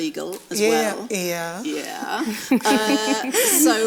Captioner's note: laughs